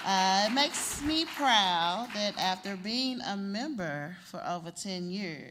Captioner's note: applause